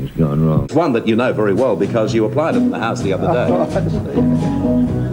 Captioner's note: chuckles